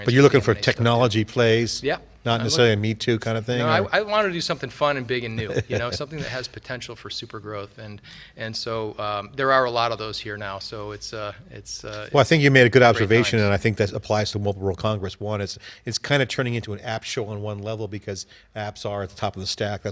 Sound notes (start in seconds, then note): 5.2 laughing